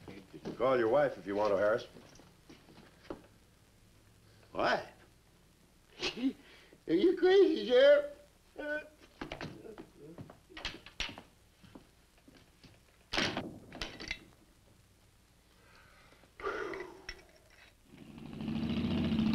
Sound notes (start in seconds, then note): 5.9 chuckles